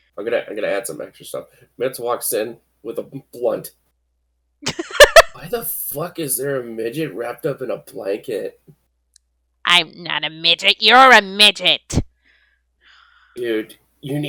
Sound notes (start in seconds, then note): 4.6 laughs